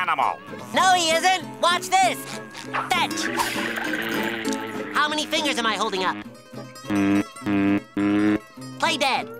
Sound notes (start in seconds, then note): 3.1 buzzing; 6.8 buzzing three times